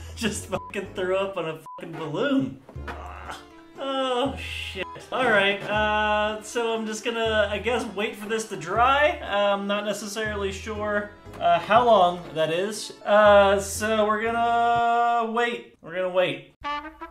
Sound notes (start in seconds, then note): 2.8 groan